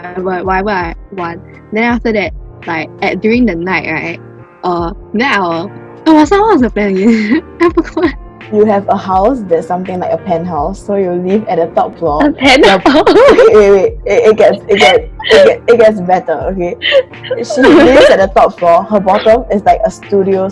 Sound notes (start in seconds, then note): 8.1 laughs; 15.3 stutters